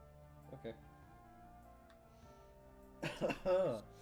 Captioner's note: laughs